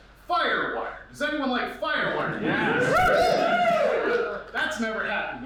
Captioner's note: crowd cheers